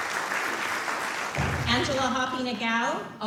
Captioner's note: applause